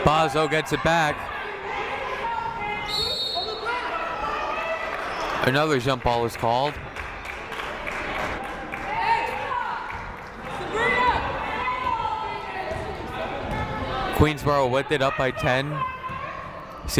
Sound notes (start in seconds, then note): 2.8 whistle blows; 6.9 clapping